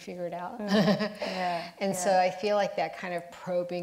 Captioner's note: laughs